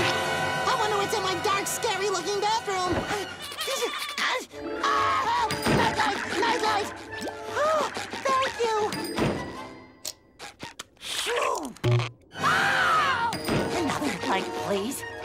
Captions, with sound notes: I wonder what's in my dark, scary-looking bathroom! [screaming] Night light! Night light! Oh, thank you. [sighing] [screaming] Please.